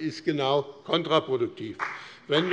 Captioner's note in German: Beifall BÜNDNIS 90/DIE GRÜNEN und CDU